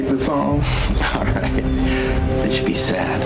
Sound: laughs

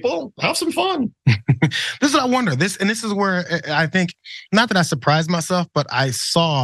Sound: laugh

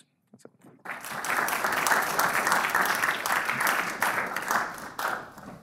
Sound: audience applauding

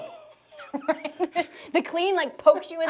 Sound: laughing

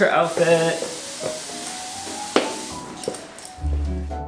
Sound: shoes clacking; gentle upbeat music

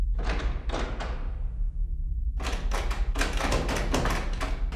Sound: doors rattle

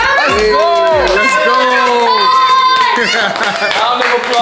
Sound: friends cheering

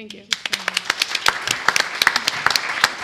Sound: applause

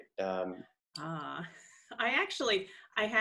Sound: chuckles

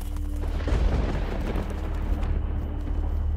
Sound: lighting strikes

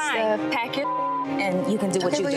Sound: beep

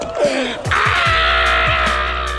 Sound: everyone exclaims

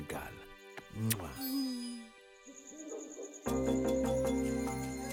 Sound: owl hooting

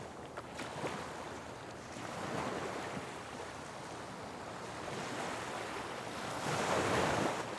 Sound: wind blowing

